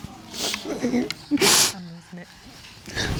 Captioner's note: sobs